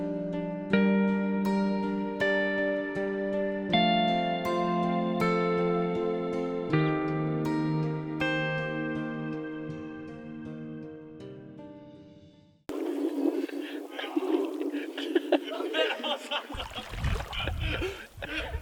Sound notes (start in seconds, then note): 13.4 laughing